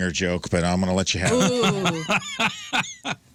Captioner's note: laughing